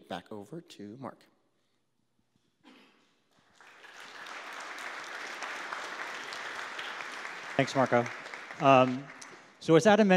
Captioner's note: applause